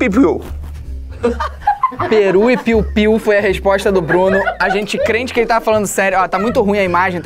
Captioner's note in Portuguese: risadas